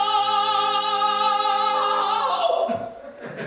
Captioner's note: voice breaks